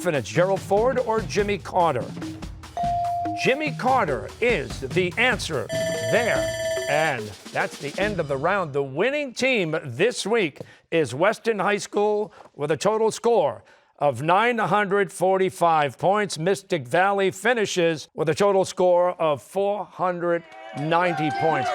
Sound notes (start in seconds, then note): 5.7 bell ringing